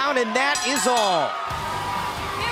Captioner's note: bell ringing